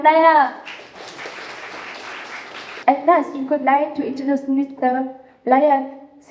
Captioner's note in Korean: 박수